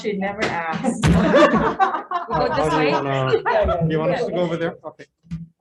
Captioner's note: representatives laughs